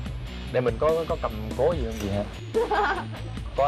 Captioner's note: laughing